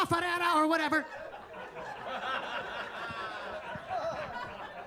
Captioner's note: attendees laughing